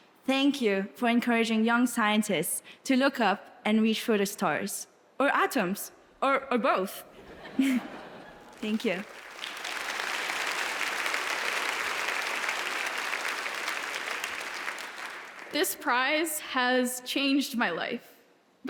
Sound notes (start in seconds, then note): 8.3 audience applauds